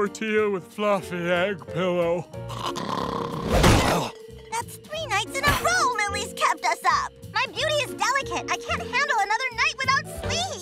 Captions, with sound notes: with fluffy egg pillow? [snoring] That's three nights in a row Lily's kept us up! My beauty is delicate; I can't handle another night without sleep!